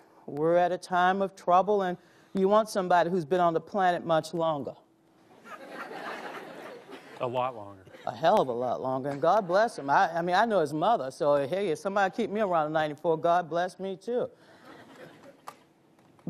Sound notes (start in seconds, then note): 5.4 audience laughs; 14.6 audience laughs